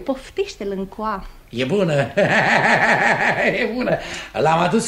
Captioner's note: laughs